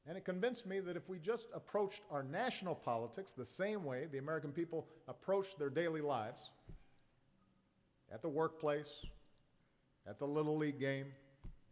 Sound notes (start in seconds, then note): none